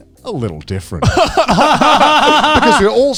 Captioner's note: Joey and Garnt laughing